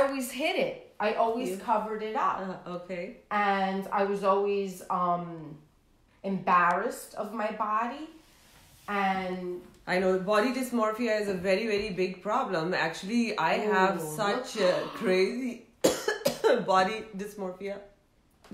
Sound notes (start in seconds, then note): 15.8 coughs